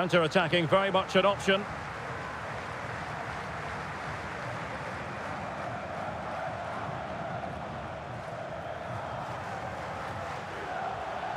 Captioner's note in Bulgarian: Аплодисменти